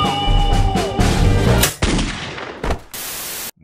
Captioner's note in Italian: bang